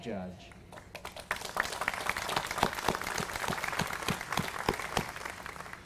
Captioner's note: applause